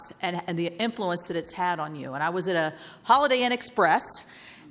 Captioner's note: none